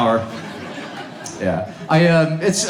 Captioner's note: audience laughs